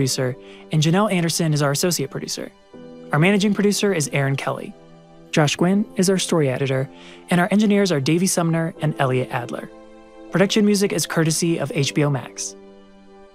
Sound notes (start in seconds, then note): none